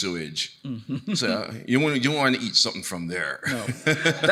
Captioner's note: laughs